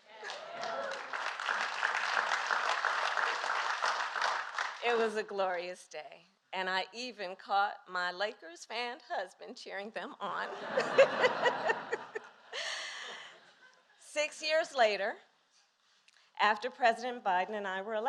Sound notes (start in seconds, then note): 0.0 applause; 10.4 laughter